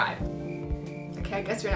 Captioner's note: crickets chirping